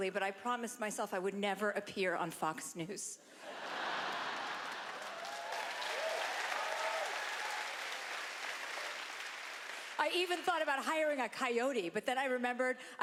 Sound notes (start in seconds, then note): 3.4 laughter; 3.7 applause